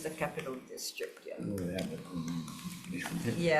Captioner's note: murmuring